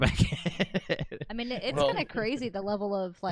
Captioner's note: laughs